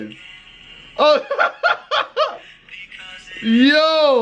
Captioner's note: laughing